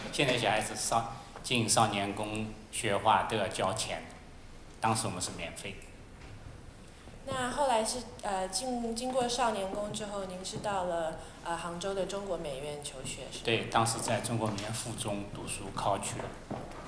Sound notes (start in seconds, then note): 7.9 Mandarin